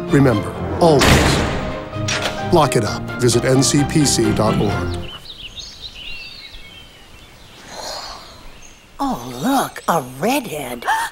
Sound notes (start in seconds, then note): 4.8 birds chirping; 10.9 gasps